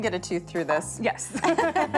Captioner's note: laughter